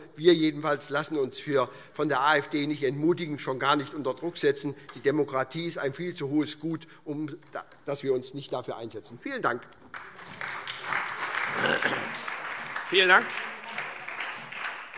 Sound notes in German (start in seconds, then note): 9.8 Beifall SPD, BÜNDNIS 90/DIE GRÜNEN, Freie Demokraten und DIE LINKE